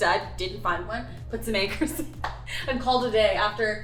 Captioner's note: laughs